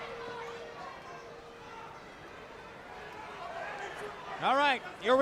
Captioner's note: bell ringing